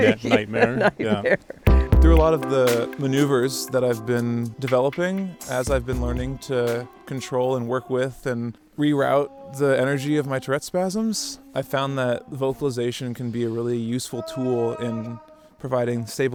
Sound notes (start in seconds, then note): 0.0 laughs